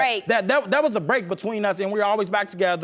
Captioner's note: stuttering